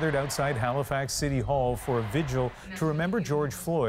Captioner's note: chanting